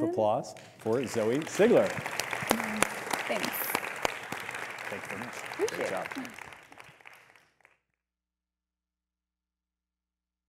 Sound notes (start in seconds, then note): 2.0 audience applauding